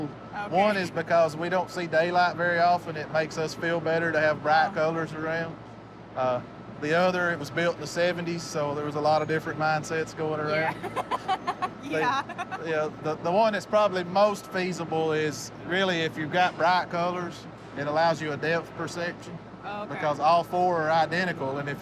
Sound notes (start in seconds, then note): 10.6 laughs